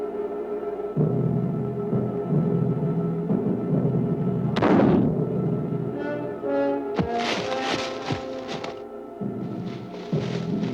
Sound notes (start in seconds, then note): 4.8 gunshot